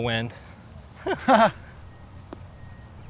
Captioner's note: chuckles